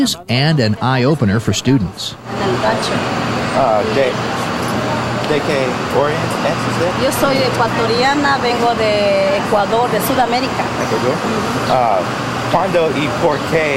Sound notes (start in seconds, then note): 4.1 students speaking Spanish